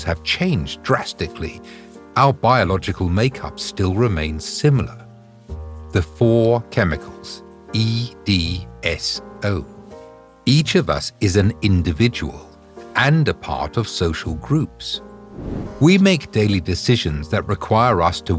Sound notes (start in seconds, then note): 15.2 air whooshing